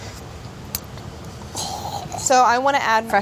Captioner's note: gargling